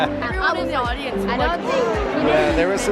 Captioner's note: gasps